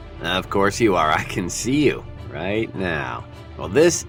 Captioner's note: guy on the TV speaking